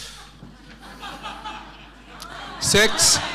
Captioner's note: laughing